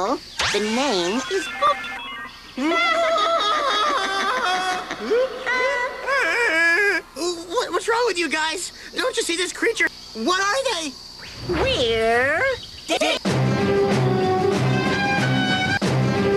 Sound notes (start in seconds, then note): 2.3 Joe wails, distorted